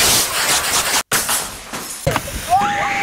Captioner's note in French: crépitement de feu; bris de verre